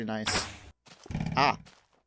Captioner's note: arrow shot